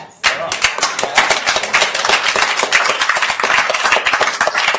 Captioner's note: attendees applauding